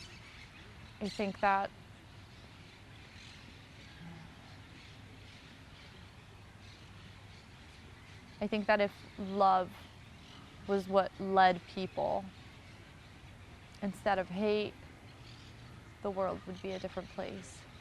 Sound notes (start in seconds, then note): 2.5 pauses 6 seconds